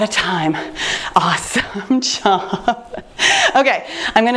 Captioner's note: chuckles